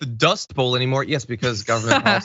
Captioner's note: laugh